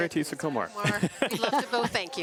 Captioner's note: laughter